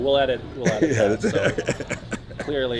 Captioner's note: laughs